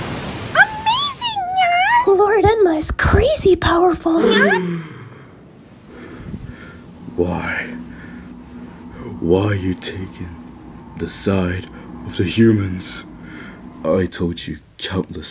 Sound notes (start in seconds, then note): 4.1 all gasp; 5.8 struggling to breathe